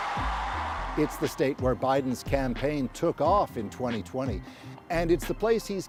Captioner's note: cheers and Applause